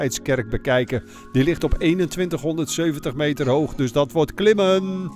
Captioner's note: voiceover